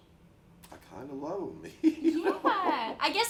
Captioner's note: laughs